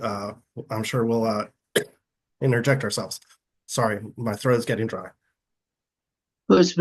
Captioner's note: coughing